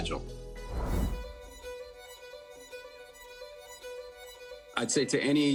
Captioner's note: upbeat instrumental music; image whooshing